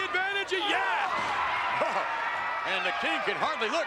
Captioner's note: chuckling